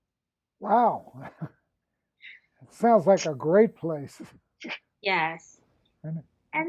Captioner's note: laughs